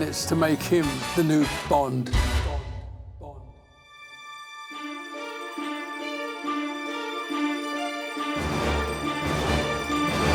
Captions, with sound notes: We had four minutes to make him the new Bond. [ECHOING] Bond, Bond, Bond... [DRAMATIC MUSIC PLAYING]